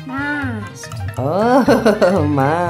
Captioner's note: laugh